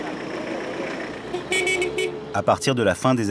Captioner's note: engine; horn